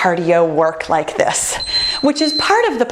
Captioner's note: beeping